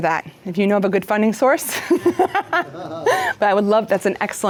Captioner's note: laughs